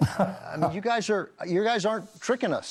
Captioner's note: laughs